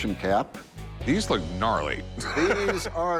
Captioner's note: laughs